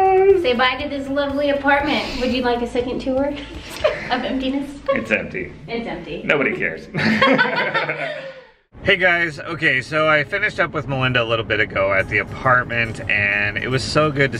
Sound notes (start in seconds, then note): 6.8 both laughing